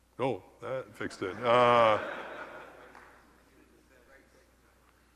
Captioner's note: laugh